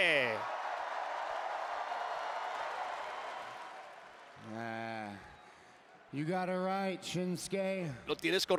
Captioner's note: applause